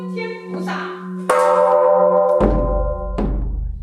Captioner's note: nun chanting in Chinese; bell chimes; nun drumming